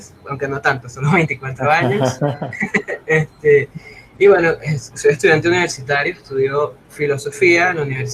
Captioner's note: laughs